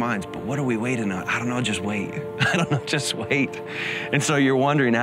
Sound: laughs

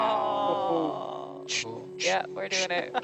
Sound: group oohs; man 2 beatboxes

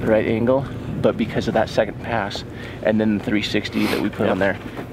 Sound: sniffles

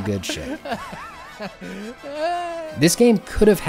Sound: laughing while gaming

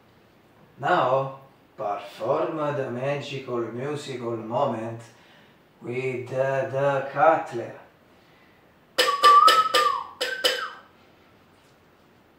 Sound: whistle

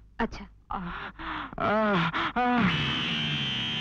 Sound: groans

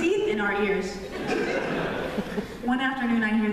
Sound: laughter

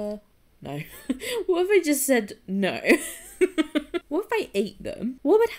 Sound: laughing

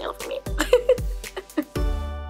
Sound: laughs

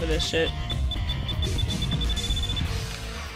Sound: timer beeping

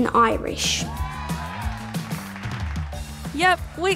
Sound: cheering and applause

